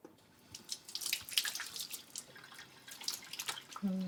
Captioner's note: faucet runs